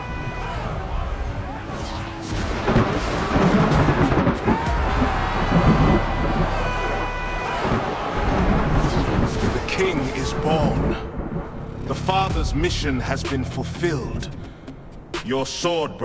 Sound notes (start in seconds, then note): 0.8 thunder; 5.7 crowd cheering